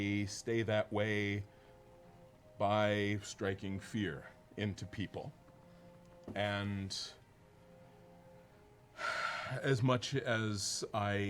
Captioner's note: sighs